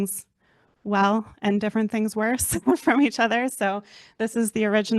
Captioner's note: chuckles